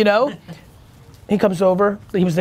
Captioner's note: laughing